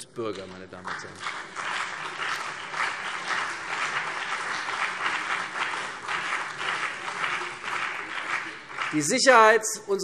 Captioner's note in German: Beifall CDU und BÜNDNIS 90/DIE GRÜNEN